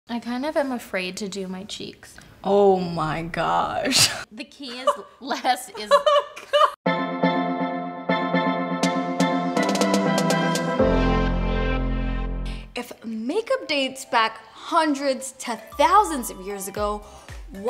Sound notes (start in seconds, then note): 5.7 laughs; 6.8 energetic music